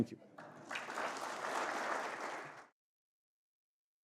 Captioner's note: applause